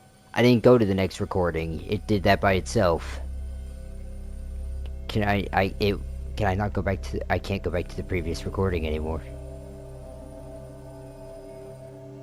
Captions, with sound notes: I didn't go to the next recording. It did that by itself. (stammers) Can I not go back to--? I can't go back to the previous recording anymore.